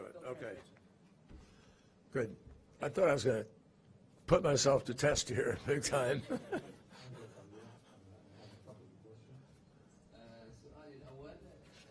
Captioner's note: laughter